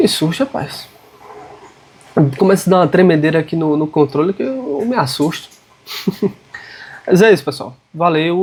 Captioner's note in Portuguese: risadas